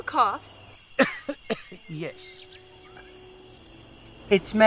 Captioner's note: coughs